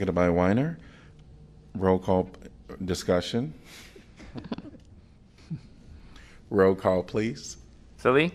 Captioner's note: laughter